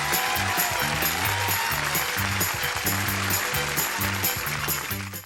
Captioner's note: applause